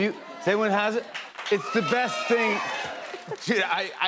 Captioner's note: scattered cheers